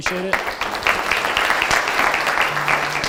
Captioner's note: audience applauding; bright music